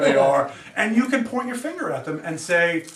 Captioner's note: student laughs